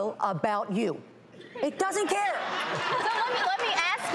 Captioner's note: audience laughs